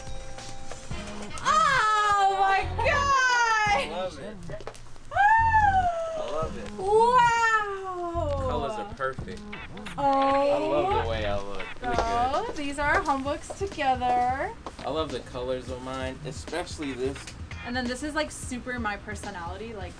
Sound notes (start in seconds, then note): 1.4 yells